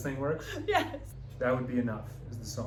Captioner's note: laughing